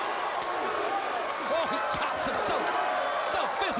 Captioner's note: crowd cheering